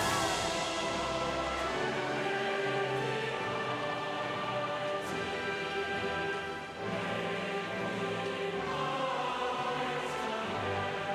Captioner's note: cheers and applause